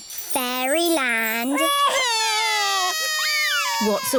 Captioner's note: both crying loudly